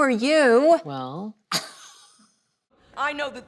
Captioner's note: Julianne laughs